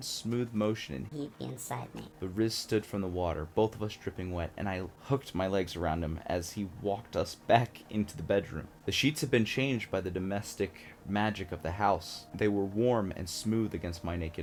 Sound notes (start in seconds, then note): 0.9 high-pitched voice effect